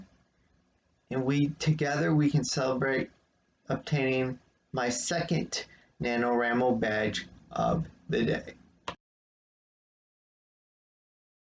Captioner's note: click